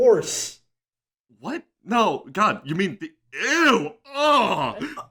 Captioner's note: disgust noises